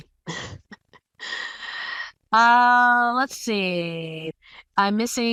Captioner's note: laugh